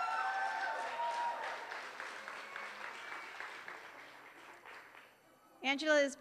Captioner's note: applause